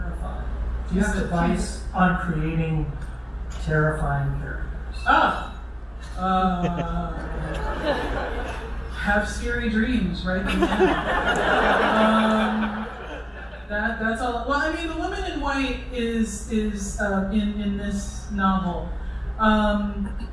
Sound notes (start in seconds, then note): 10.4 crowd laughter